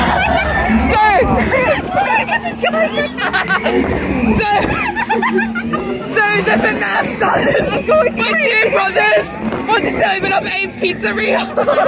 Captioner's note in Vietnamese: laughter